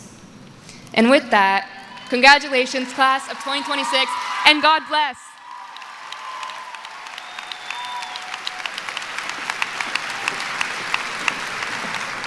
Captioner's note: cheering; applause